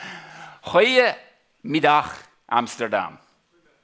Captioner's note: speaking dutch